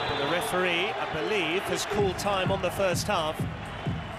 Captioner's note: whistle; crowd noise